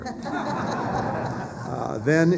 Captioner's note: laughter